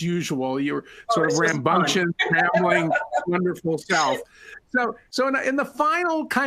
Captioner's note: laughter